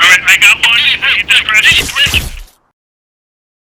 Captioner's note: on the radio